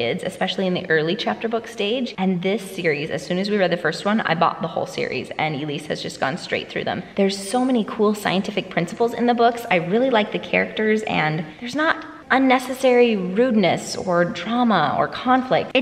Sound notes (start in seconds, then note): none